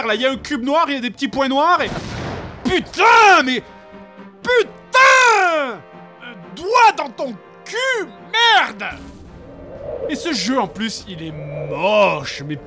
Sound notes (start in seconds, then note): 1.9 explosion